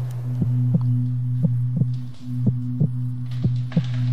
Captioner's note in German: Töne des Herklopfens